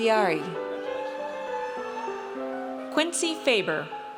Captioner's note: audience cheers